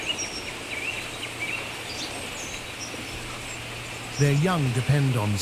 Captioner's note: birds chirping